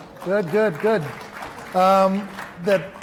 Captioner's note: applause